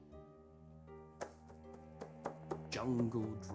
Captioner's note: tapping